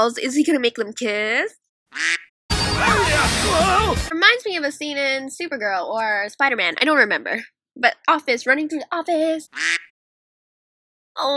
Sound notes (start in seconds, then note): 1.9 quack; 9.5 quack